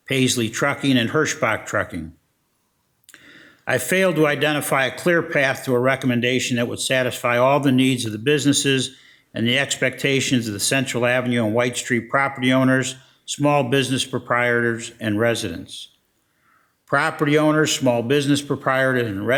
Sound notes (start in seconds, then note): none